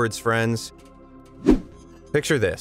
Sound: video whooshing

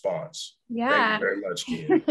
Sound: chuckles

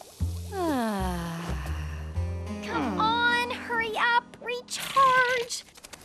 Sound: sighing

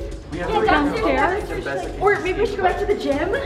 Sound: all talking excitedly

